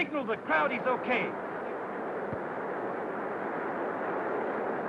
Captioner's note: crowd cheering